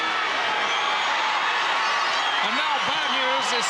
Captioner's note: audience cheering